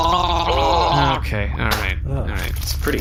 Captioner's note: gargles his drink again